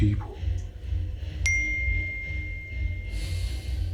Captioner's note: notification pings